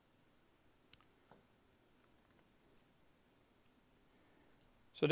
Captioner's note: keyboard clicking